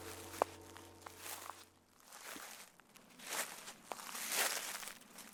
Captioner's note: sounds of steps on grass